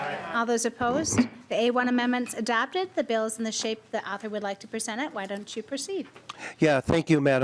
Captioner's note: chorus of ayes